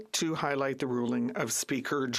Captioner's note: speaking French